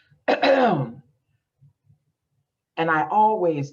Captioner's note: coughs loudly